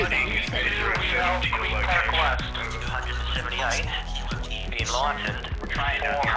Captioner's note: radio chatter; upbeat electronic music